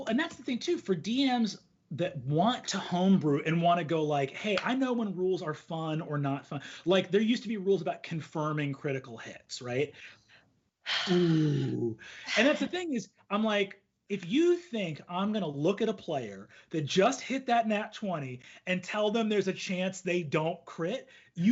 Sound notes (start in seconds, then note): 10.9 sighs loudly; 11.5 hums loudly